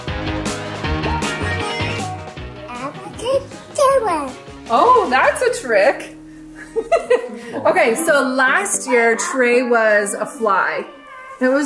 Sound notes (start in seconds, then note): 0.0 upbeat rock music; 6.6 laughs